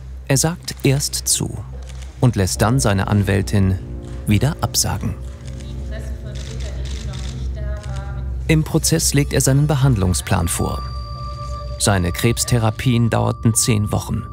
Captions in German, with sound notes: Er sagt erst zu und lässt dann seine Anwältin wieder absagen. Die Pressevertreter, die noch nicht da waren ... (Kameraklicken) Im Prozess legt er seinen Behandlungsplan vor. Seine Krebstherapien dauerten zehn Wochen.